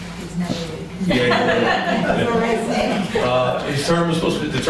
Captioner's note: laughter